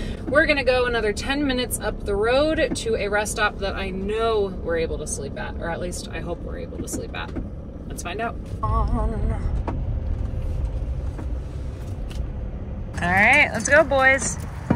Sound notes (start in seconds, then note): none